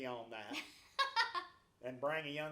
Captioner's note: laughs